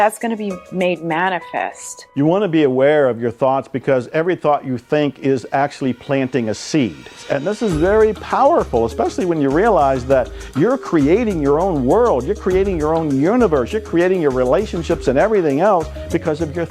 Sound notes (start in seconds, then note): none